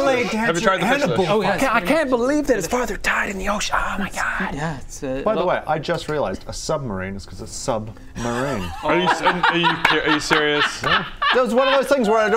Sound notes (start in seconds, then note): 8.2 patronising laugh; 10.8 slow clap